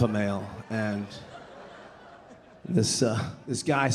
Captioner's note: audience laughing